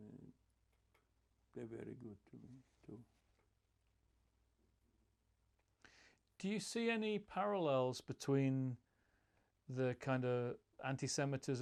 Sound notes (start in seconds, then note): none